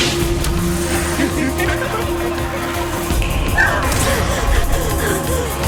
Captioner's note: the Duchess laughs